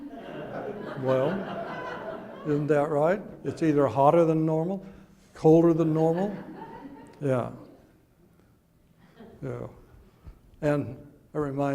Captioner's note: audience titters